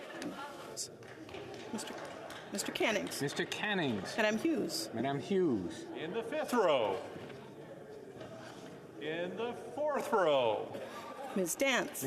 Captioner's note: calling of recorded vote